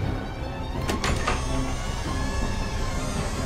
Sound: door opens

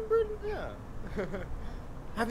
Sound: oliver chuckles

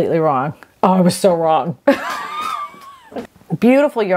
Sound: laughs

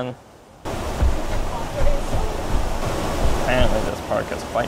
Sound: runners pass

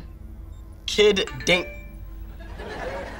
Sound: phone chiming

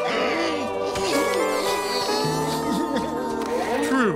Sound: crying

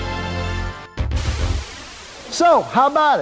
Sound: wind whooshing

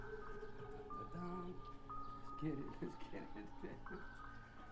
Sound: chuckling

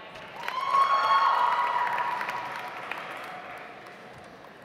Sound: audience applauds

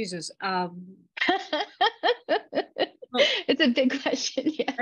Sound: laughing

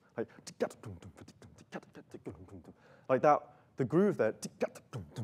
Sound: beat boxing

